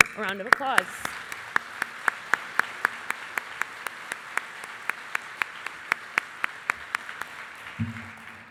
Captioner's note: applause